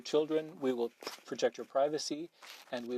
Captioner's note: speaking French